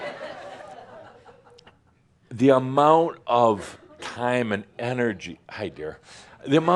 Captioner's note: more laughter